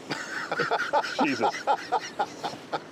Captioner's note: laughter